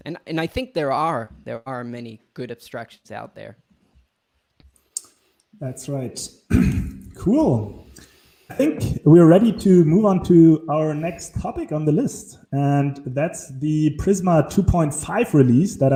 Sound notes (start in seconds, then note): 6.4 clears throat